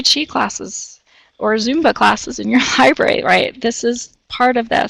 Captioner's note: chuckles